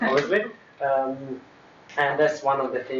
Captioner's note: laughter